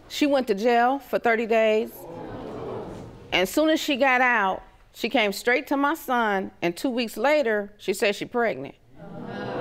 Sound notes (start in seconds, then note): 2.0 audience exclaims